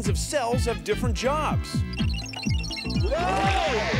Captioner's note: beeping